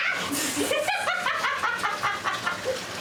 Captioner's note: laughter